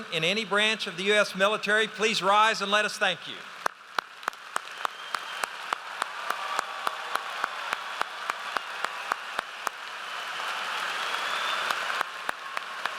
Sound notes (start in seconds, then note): 3.7 audience applauds